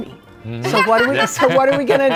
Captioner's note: couple laughs